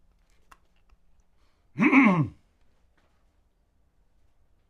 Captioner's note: clears throat